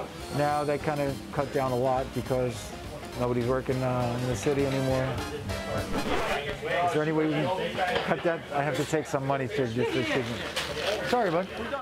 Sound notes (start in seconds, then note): 5.8 record scratch